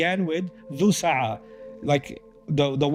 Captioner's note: Arabic